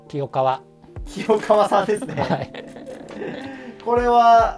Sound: laughing

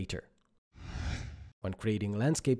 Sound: screen whooshes

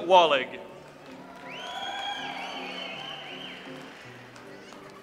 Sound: audience applauds

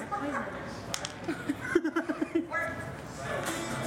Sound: laughs

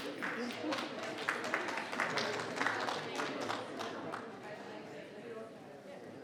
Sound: people applauding; people chattering

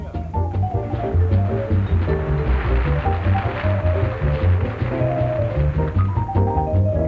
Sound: audience applauding

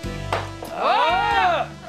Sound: grunting

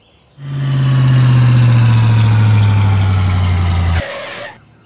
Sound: engine slow down

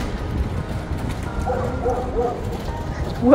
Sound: barking dog

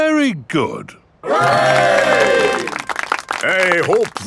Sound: clapping

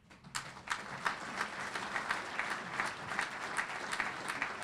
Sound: audience applauding

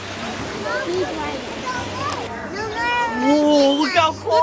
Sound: water rushes

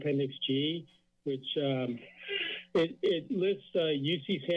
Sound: sneeze

